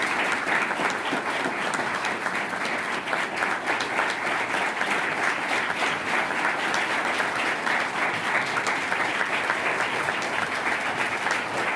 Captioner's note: applause